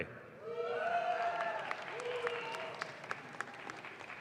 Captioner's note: audience claps